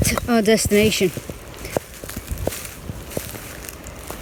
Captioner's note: leaves rustling